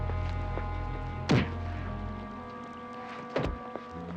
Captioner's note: fist thuds